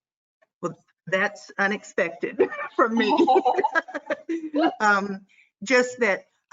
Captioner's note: chuckles